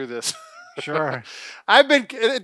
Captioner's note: laughing